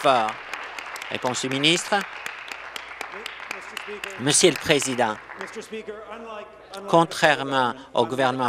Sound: applause

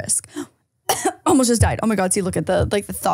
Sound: coughs

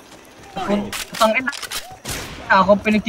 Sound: through a shitty radio, apparently

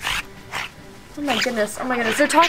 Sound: otters squeaking sounds

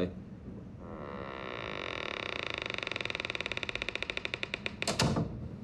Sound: door creaks; door closes

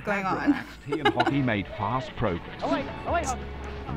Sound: voice-over

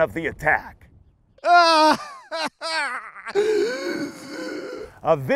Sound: groaning in pain

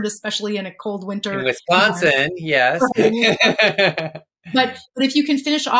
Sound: laughs

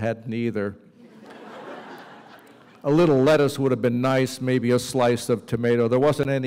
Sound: laughter

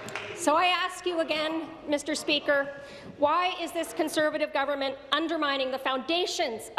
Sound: applause

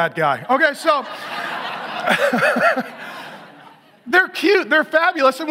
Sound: laughs

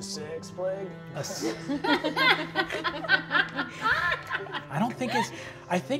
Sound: all laughing

